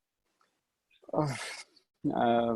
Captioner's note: sighs